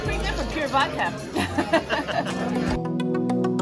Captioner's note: both laughing; bright music